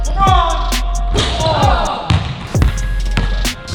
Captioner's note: ball bounces; upbeat pop music; ball bounces; ball hits rim